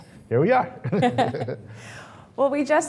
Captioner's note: laughs